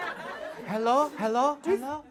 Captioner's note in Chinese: 回声